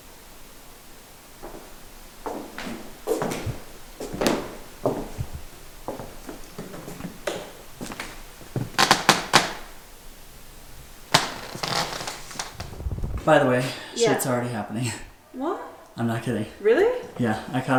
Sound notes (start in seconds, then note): 1.7 footsteps; 8.9 floor creaking